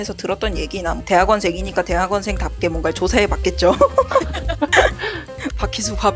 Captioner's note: laugh